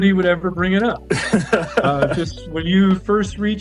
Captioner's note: laughs